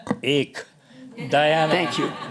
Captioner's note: laughter